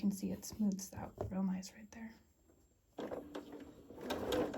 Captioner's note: sewing